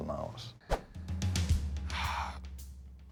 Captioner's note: sighs